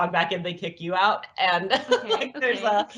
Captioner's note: laughs